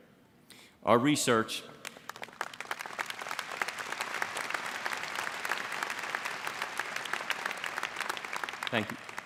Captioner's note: applause